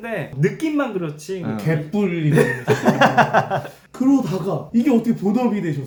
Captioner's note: laughing